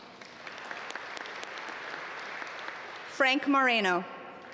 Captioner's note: audience applaud